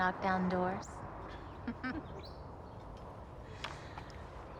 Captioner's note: both chuckle